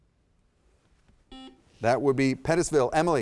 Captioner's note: buzzer dings